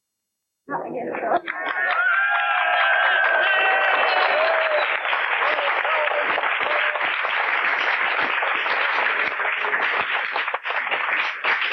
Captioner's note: applause and cheering